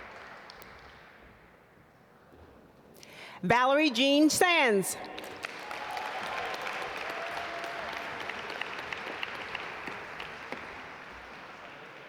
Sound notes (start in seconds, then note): 5.0 audience applaud